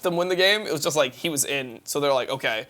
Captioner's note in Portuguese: risos